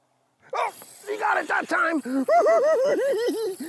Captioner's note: laughing